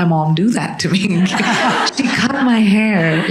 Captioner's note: audience laughing